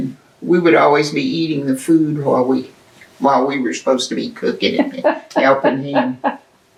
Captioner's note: laughter